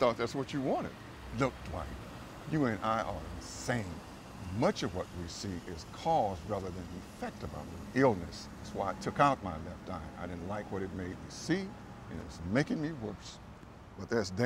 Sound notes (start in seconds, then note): none